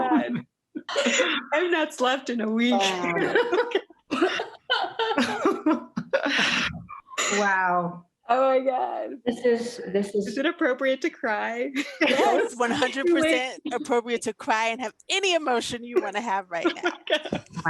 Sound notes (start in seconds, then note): 4.1 laughing - Elation